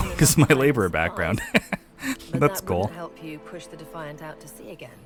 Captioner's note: laughs